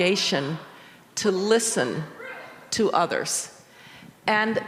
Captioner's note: member continues shouting